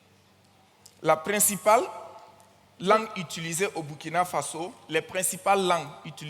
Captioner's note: continues in French